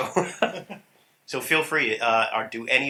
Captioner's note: laughter